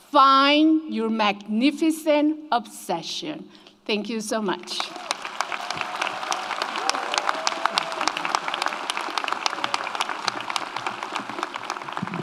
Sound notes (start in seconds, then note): 4.7 audience applauds; 4.8 audience cheers